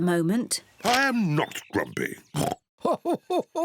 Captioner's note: oinks; laughs